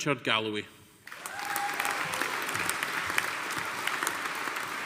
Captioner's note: audience applauding